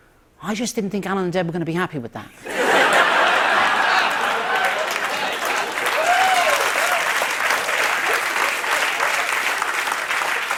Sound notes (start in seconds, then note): 2.4 laughter; 5.8 cheers and applause